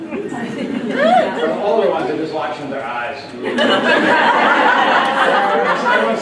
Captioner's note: laughter